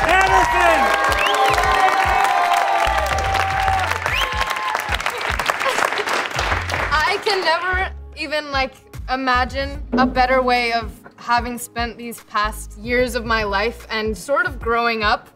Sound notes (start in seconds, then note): 0.0 cheering